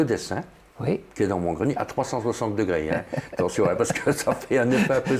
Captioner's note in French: rire